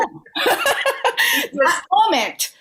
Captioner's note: laughter